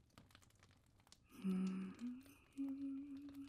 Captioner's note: humming